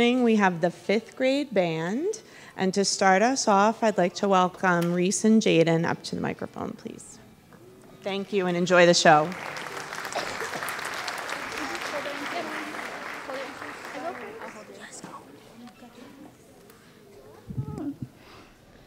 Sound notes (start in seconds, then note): 8.7 audience clapping